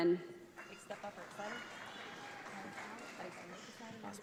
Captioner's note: audience applauds